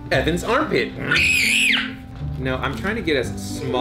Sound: screams

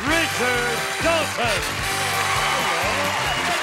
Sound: applause

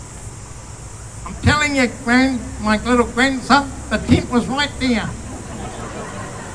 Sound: laughter

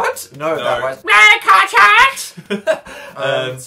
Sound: laughs

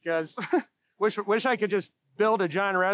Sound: chuckles

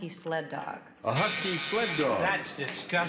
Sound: buzzer sounds

